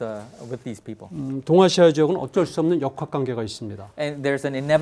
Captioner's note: speaking in Korean